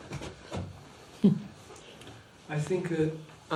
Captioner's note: laughs